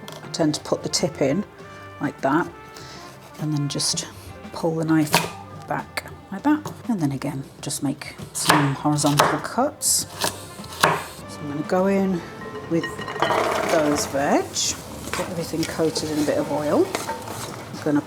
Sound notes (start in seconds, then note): 9.9 chop chop chop; 13.9 chunky tumbling